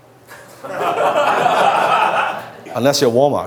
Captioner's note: laughs